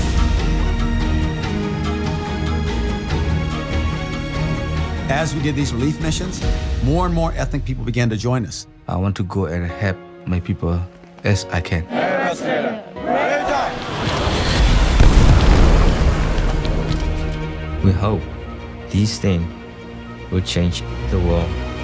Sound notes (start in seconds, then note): 0.1 epic music; 13.7 explosions